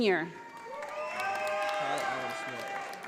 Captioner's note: audience applauding